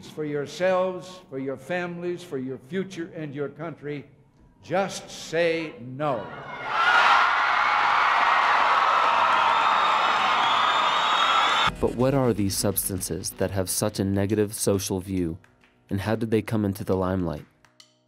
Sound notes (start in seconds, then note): 7.6 applause